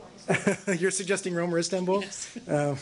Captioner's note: laughter